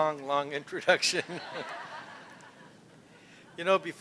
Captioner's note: laughter